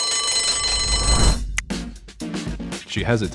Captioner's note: bell ringing; upbeat music